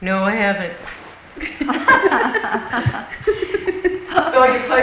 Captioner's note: women laugh